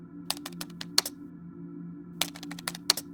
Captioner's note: typing